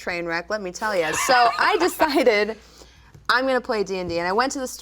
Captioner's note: laughing